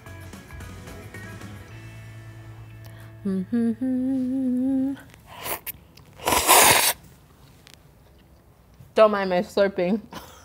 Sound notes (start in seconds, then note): 0.0 upbeat music; 6.1 slurping of noodles